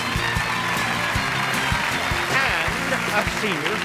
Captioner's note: cheers and applause